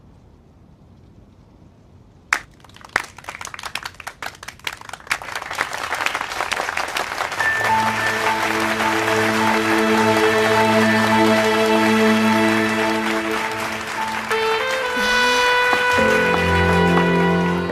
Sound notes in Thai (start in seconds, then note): 2.3 ปรบมือ